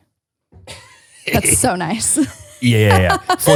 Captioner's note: chuckles